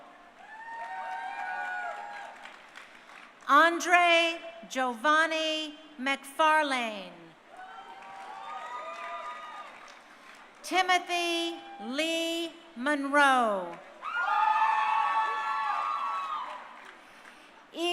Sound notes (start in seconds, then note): 0.1 crowd cheering; 7.5 crowd cheering; 13.9 crowd cheering